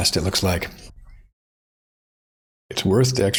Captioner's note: blank Audio